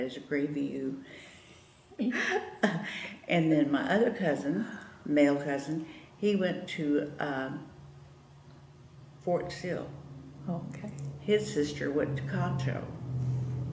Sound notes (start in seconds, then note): 3.0 laughs